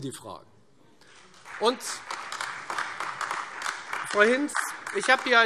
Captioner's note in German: Beifall Freie Demokraten und AfD